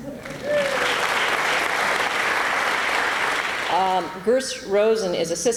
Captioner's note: applause